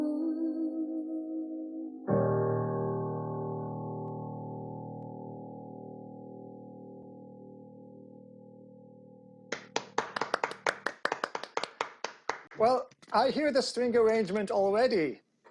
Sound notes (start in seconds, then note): 9.5 applause